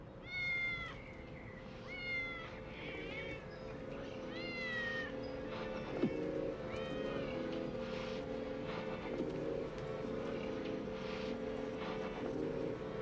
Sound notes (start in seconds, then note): 1.9 cat meowing